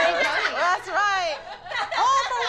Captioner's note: laughter